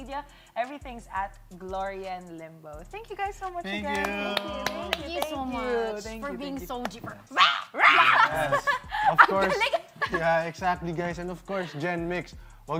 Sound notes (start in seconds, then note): 7.3 laughing